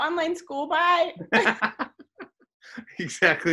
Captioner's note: laughs